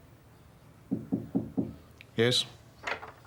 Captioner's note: knock at door